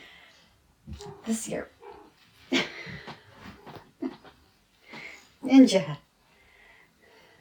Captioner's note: mrrp